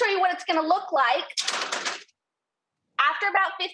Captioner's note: sheet pan clatters